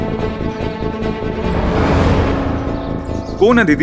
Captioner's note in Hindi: none